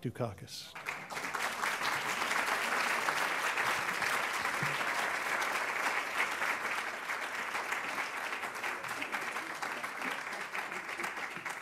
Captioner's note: applause